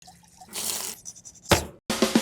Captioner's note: liquid sloshing; pan sizzling; grater rustling; wood thumping; bright upbeat music